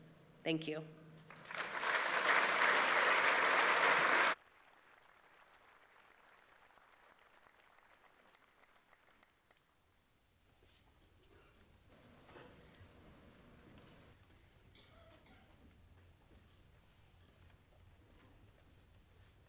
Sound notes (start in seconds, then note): 1.2 audience applauds